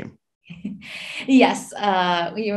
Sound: chuckles

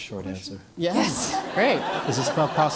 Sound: laugh

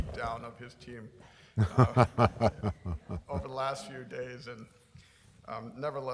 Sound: laughter

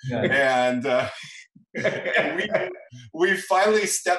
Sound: laughing

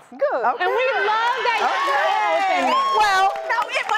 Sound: audience applauding

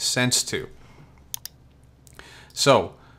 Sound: mouse clicks

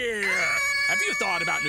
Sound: kids screaming

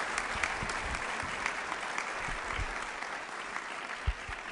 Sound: applause

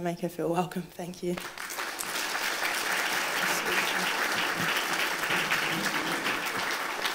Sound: applause

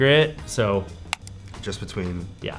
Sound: mouse clicking

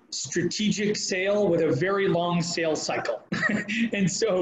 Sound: laughing

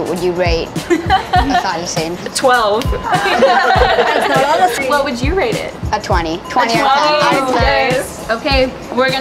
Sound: laughing

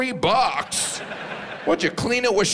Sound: audience laughs

